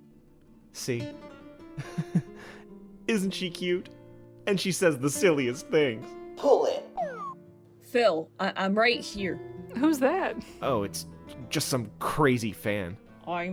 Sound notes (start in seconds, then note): 1.8 chuckles; 7.0 slide whistle